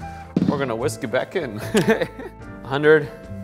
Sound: laughs

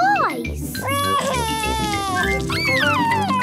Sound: crying

